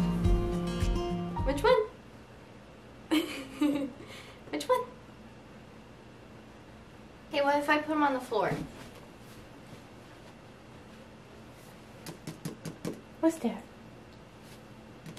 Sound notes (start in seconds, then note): 3.1 giggles